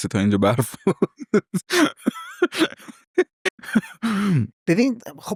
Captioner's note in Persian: خنده